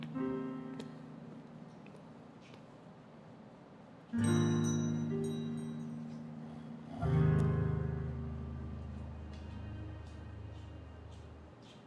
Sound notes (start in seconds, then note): 4.2 doorbell tinkling